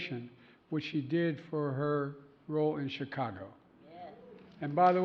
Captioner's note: applause